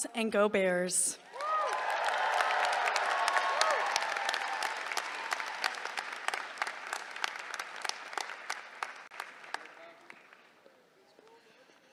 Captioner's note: applause